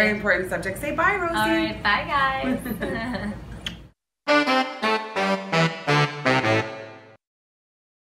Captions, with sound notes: - Very important subject. Say bye Rosie! - All right, bye guys! (both laugh) (lips smooch) (jazzy music)